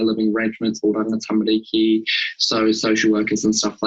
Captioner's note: speaking in foreign language